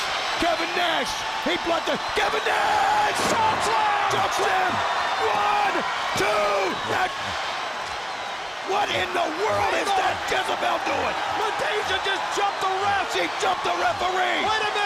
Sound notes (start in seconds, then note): 4.7 crowd cheering; 6.7 crowd cheering; 8.6 crowd chatter